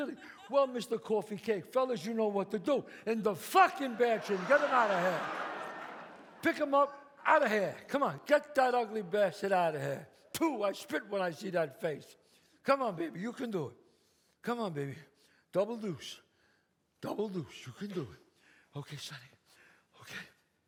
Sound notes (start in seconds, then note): 3.5 audience laughs